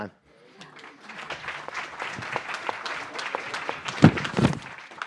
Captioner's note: applause